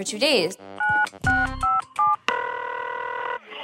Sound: phone keypad beeping; phone ringing

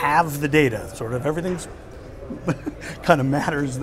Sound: laughs

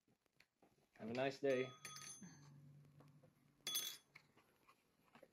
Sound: door bell jingles

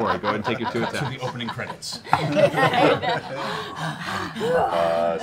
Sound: laughing

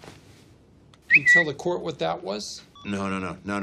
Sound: bird noise

